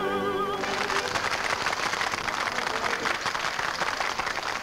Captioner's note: patrons clap